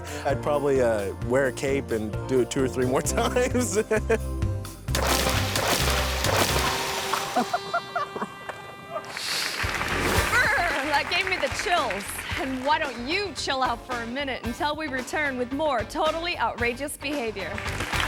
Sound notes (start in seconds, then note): 4.9 water splashes; 7.3 people laughing; 17.5 audience applauds